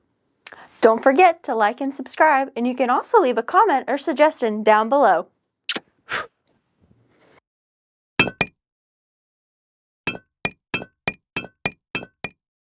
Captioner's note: blows kiss